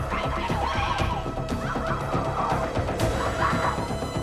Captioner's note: screaming